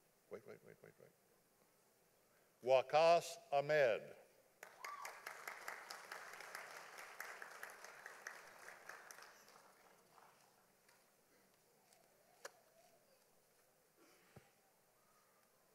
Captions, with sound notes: Wait wait wait wait wait, Wackos Ahmed. (audience applauding)